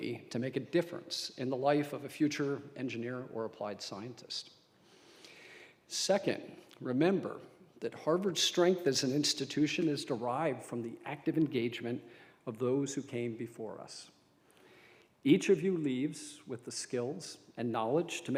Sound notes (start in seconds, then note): none